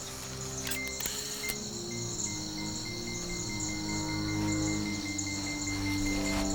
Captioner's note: slow tense music; detector beeps